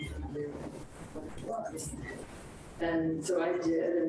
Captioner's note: speaks distorted